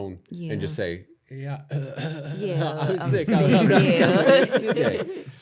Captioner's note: coughs